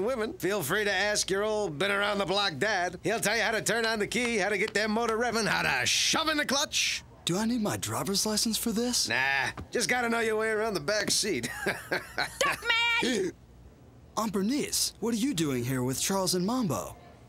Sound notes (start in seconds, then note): 11.3 chuckles